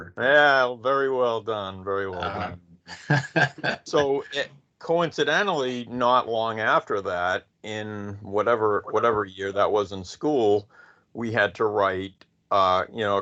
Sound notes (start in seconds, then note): 2.9 laughing